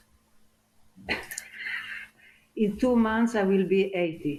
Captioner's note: laughing